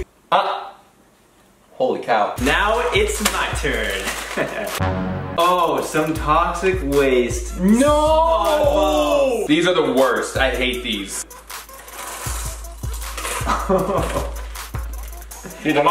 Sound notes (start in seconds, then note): 11.6 candy pouring; 13.6 laughing